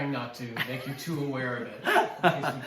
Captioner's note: laughs